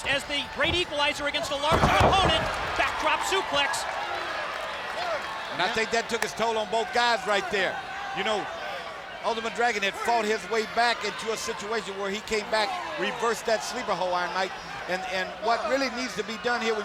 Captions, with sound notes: as the great equalizer against the larger opponent, backdrop plex. (body thudding) And I think that took its toll on both guys right there. You know, Ultimate Dragon had fought his way back into a situation where he came back, reversed that sleeper hole, Iron Mike and what really needs to be done here